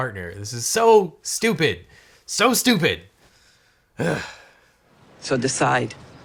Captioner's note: sighing